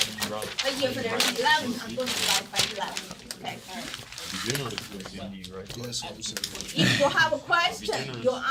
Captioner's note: students murmur